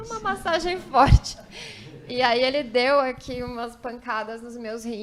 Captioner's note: laughs